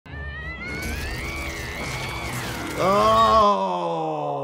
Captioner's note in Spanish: personaje gritando